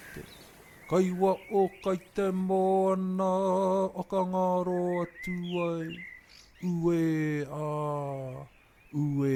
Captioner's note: speaking in Māori; bird song